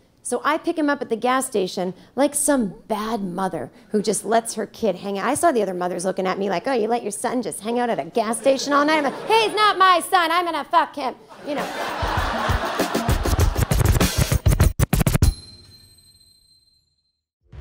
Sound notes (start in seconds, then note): 11.3 audience laughing; 11.5 upbeat music